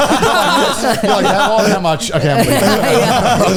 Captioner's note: all laughing